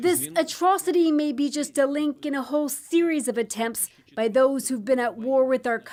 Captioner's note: speaking alternate language